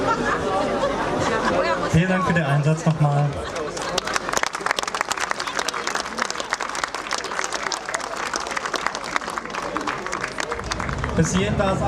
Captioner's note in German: Applaus